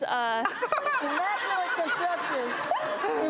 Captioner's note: laughter